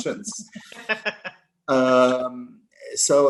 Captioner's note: laughter